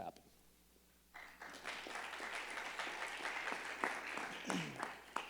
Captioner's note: crowd clapping